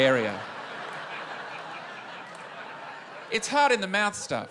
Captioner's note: laughter